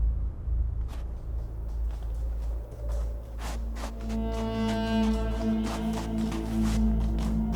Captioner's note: soft music; horses galloping